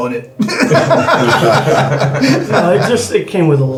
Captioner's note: all laughing